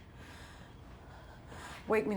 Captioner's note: shaky breathing